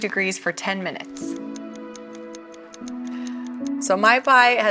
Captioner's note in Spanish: reloj tictac